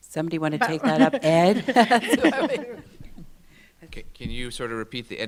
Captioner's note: laughs